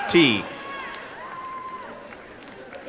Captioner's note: applause and cheering